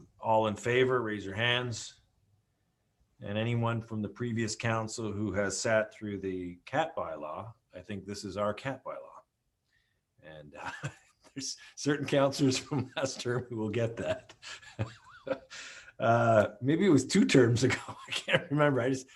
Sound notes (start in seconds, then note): 10.6 laughs; 13.9 laughs